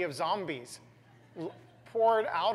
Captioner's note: laugh